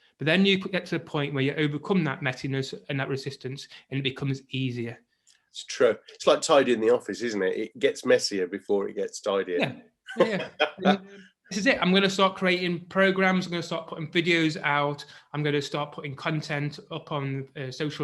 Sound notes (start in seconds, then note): 10.1 laughs